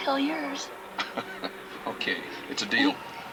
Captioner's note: chuckles